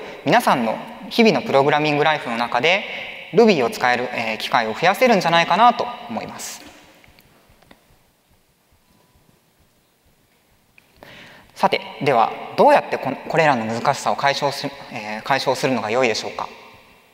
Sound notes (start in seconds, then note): 7.8 silence